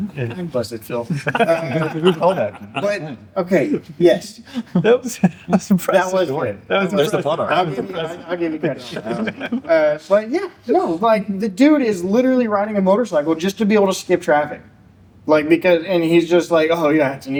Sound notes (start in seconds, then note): 1.0 laughter